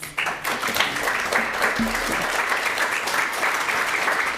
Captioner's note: audience applauds